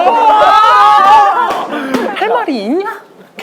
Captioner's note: laughing